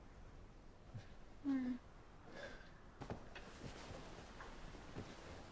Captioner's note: mother moaning